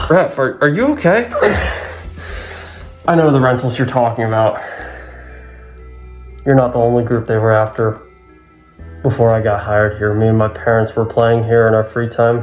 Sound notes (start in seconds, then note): 1.3 exhales